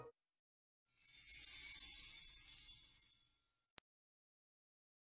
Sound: chimes twinkling

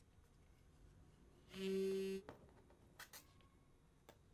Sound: phone vibrates

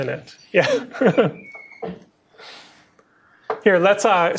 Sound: chuckles

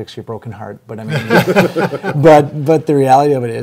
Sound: everyone laughs

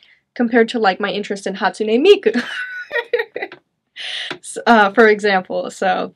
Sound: chuckles

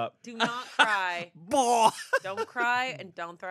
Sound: imitates throwing up

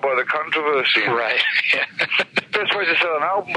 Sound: laughing

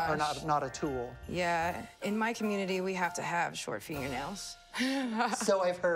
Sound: laughs

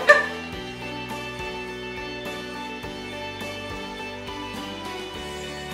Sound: uplifting music; students chuckling

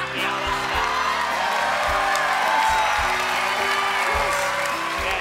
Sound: cheers

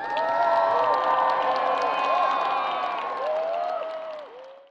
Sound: people cheering and applauding

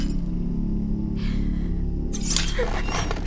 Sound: gasps

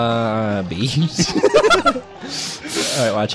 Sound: both laugh hysterically

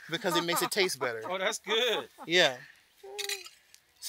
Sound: laughs

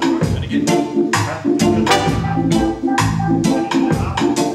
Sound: toot!

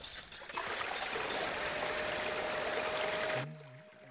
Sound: water flowing

